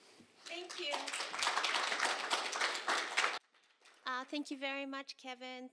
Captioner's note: applause